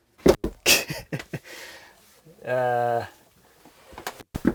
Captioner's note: laughing